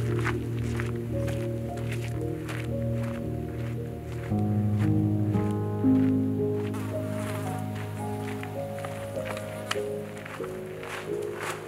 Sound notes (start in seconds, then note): 0.1 footsteps crunching; 6.3 fly buzzing